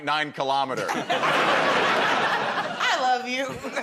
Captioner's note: laughter